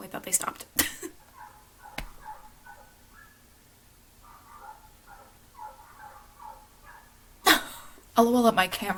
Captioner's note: dogs barking lol